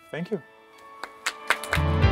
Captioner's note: applause